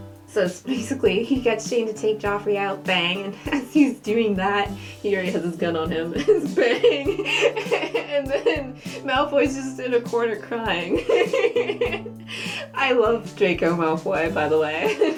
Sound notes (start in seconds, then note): 7.9 laughing